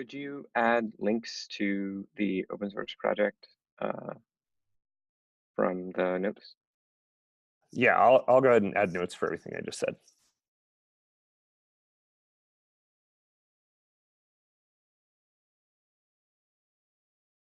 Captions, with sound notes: - Could you add links to the open-source project from the notes? - Yeah, I'll go ahead and add notes for everything I just said. (long pause)